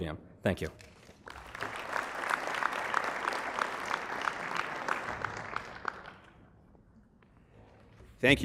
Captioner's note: applause